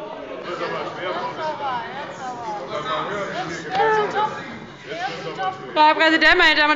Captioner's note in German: Zurufe